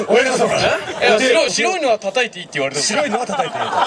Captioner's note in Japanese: 客 笑・笑・笑